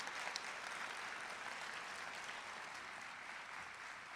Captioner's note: applause